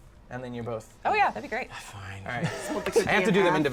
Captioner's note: sighs